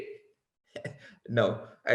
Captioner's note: laughs